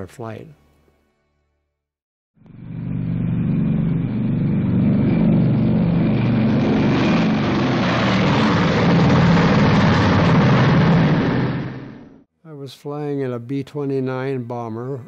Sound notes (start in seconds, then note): 2.4 airplane sound